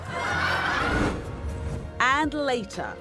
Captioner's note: audience laughs